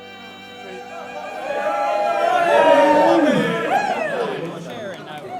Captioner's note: people cheering